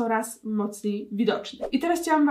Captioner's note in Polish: zium